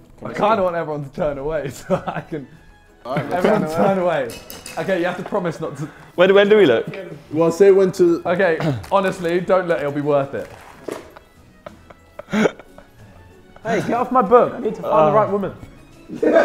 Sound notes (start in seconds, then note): 10.8 sidemen laughing; 16.0 JJ laughing